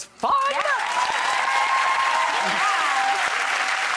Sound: audience cheering and applauding

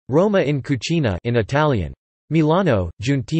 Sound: in Italian

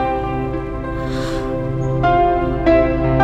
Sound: inhales

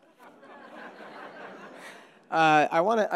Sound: audience laughing

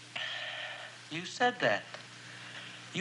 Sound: sighs

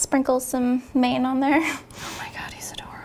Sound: whispering

